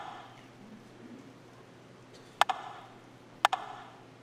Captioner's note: rhythmic tapping